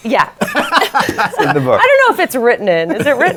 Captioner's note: laughter